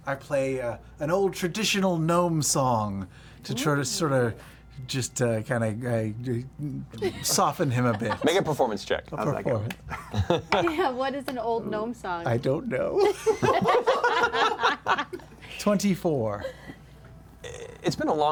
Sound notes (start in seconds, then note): 13.0 laughter